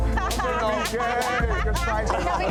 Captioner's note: people speaking indistinct; person laughing